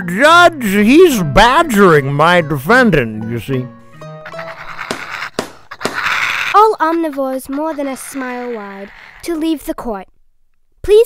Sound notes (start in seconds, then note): 4.3 gavel bangs